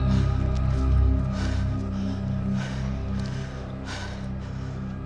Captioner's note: heavy breathing